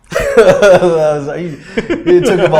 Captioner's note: laughter